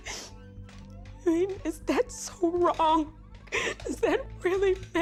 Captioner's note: chair creaking